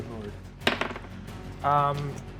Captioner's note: die rolling